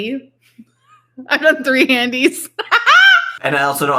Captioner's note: laughs